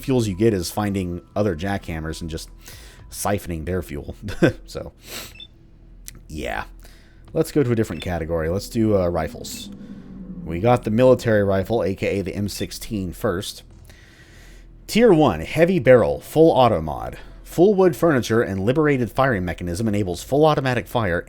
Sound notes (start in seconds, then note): 4.3 chuckles